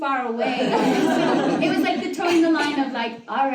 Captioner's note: audience laughter